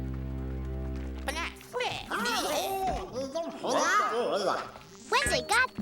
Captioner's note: chattering in alien language